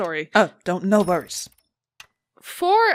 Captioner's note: rhythmic clock ticking and whirring continues